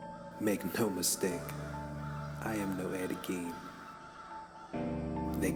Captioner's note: laughing